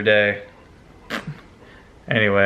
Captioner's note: spit sound